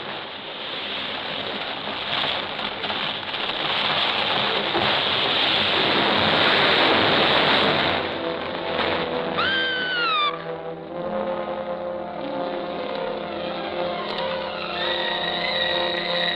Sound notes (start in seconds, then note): 7.7 dramatic music; 9.4 Alicia screams; 11.7 suspenseful music